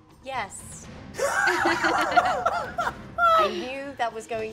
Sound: all laugh

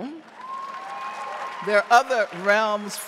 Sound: audience cheering

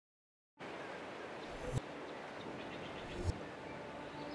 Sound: desert soundscape; dramatic music

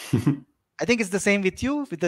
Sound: laughing

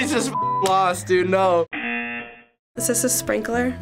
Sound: buzzer

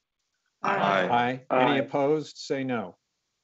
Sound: multiple voices

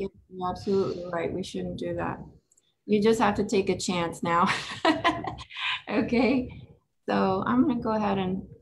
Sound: laughs

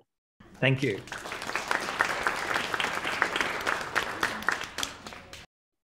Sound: audience applauding

